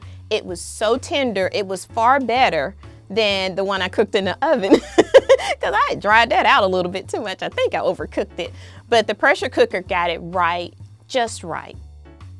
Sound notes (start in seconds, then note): 4.8 laughs